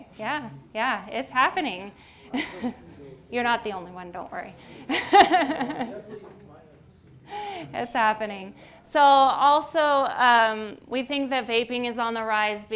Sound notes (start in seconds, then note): 2.3 chuckles; 4.8 laughs